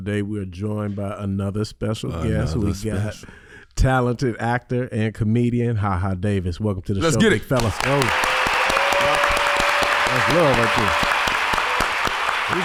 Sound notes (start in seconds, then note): 7.5 everybody applauds